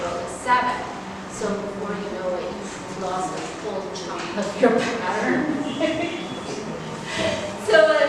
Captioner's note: laughs